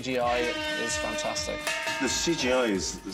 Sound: buzzer sounds; cowbell clangs

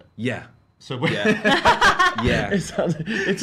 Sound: all laugh

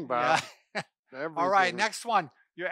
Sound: chuckles

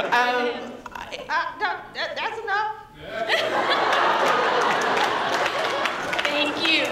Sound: laughter

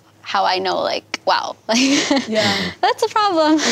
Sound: laughs

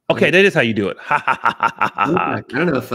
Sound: laughs

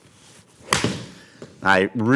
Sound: golf ball flying

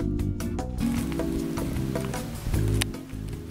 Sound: chewing

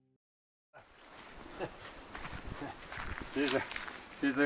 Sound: laughs

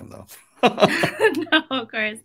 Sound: laugh

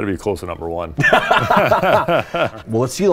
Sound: laughter

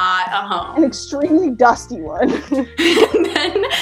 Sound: laughs

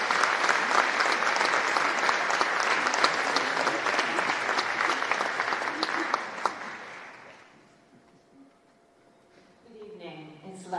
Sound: applause

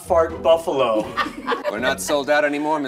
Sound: all laugh

